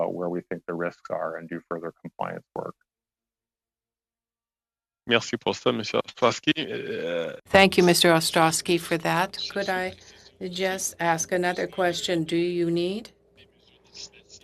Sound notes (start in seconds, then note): 10.6 speaking French